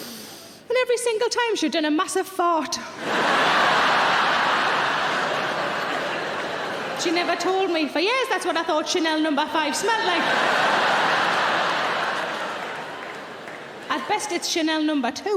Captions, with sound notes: And every single time she'd done a massive fart. (audience laughing) She never told me, for years, that's what I thought Chanel Number Five smelled like. (audience laughing) At best it's Chanel Number Two.